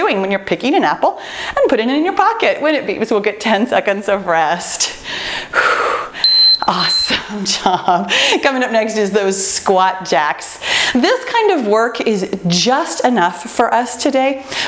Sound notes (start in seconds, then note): 5.0 exhales; 6.2 timer beeping